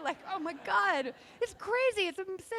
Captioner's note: laughing